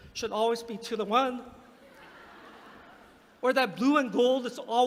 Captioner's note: laughter